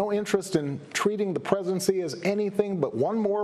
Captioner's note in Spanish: HABLAN EN INGLéS